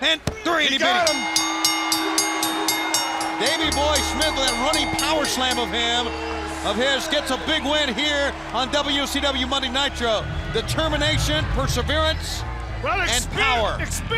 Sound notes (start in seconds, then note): 4.3 bell ringing; 5.2 crowd cheering